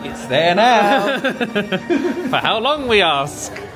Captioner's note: laughing